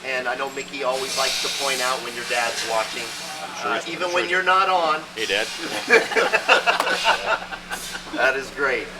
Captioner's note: laughing